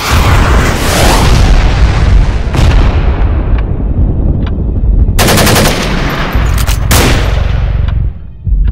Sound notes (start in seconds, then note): 5.0 firecracker and machine gun sounds